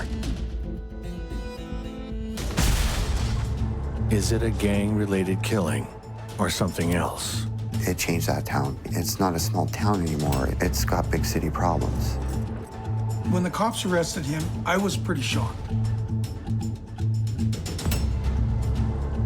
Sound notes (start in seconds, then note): 0.2 intense music; 2.5 thunderous explosion; 16.4 intense music